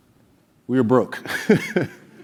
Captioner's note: laugh